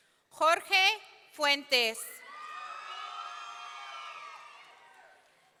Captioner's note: audience cheering